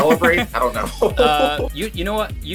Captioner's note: laughter